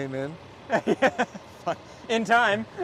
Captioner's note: laughing